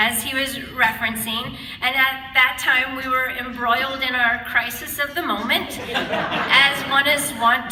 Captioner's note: audience laughter